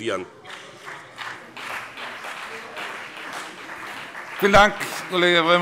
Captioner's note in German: Beifall BÜNDNIS 90/DIE GRÜNEN und CDU